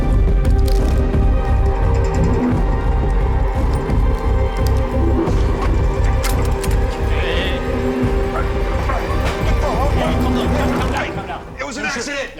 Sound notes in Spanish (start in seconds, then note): 7.2 Exclamaciones